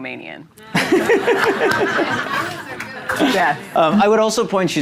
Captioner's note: audience laughing